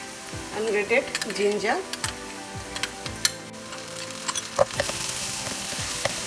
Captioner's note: oil sizzling